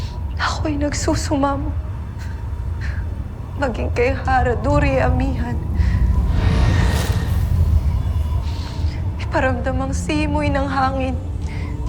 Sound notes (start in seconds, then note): 5.5 melodramatic music playing; 5.6 hollow echo sound